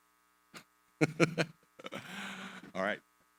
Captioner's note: laughs